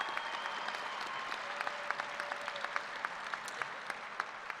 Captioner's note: applause